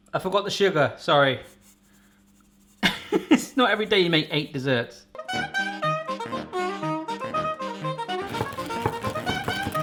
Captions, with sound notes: I forgot the sugar, sorry. (laughs) It's not every day you make eight desserts. (happy music)